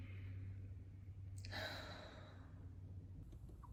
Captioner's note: big Sigh 3